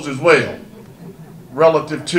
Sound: audience laughter

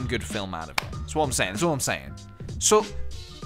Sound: in a New York accent

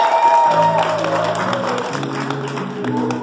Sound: clapping

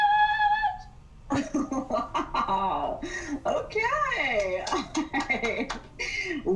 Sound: laughs

